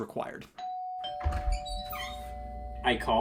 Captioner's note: doorbell rings